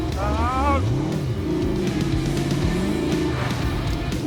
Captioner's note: engine revving